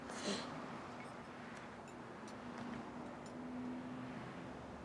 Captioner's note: cars whooshing